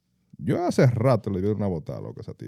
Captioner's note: speaking In Foreign Language